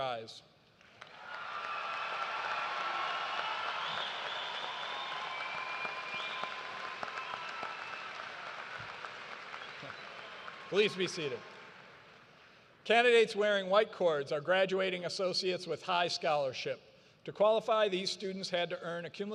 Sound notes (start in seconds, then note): 4.3 cheers and applause